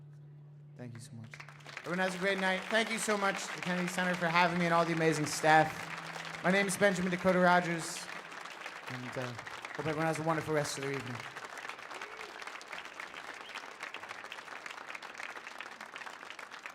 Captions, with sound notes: Thank you so much. (audience applauds) Everyone has a great night. Thank you so much, the Kennedy Center, for having me and all the amazing staff. My name's Benjamin Dakota Rogers, and hope everyone has a wonderful rest of their evening. (audience continues applauding)